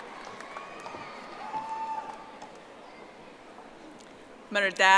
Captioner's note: audience applauding